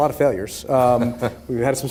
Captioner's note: laughing